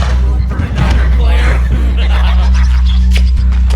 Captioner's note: evil Laugh